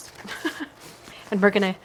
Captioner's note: laughing